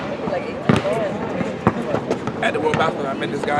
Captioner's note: basketball bouncing